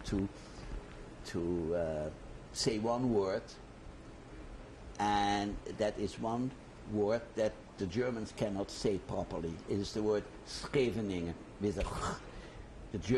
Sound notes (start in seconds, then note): none